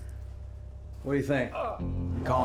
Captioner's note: man groaning